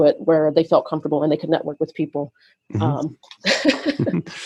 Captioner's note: laughs